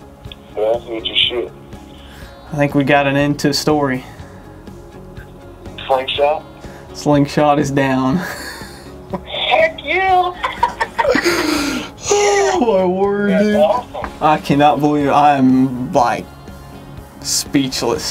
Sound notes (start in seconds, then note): 10.3 laughter